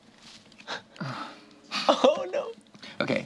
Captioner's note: sighs